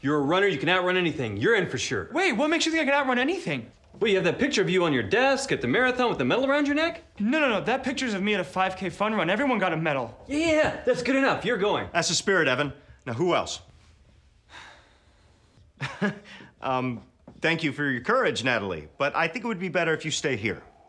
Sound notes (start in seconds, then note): 14.6 scoffs